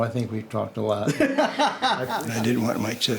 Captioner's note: laughs